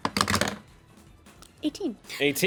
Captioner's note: rolls dice